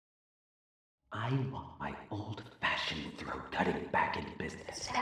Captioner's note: background gossiping